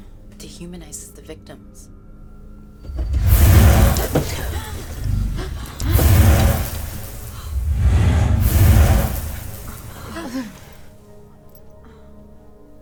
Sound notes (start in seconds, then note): 3.0 dramatic music; 4.6 gasping; 6.9 dramatic music